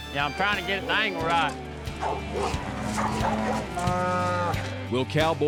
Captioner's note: mooing